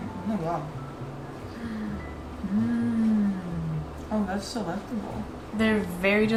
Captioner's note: gasp